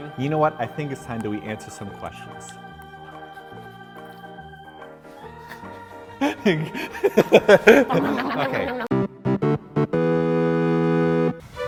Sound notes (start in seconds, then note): 6.2 giggle; 8.8 game music